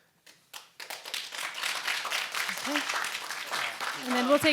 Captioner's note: audience applauds